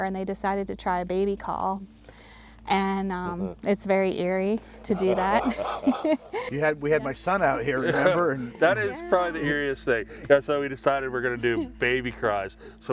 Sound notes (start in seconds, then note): 4.7 people laughing